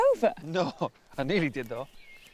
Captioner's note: laughing